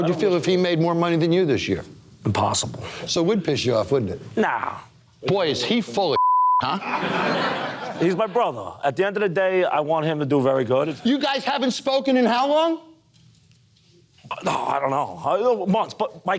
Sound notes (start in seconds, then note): 6.1 beep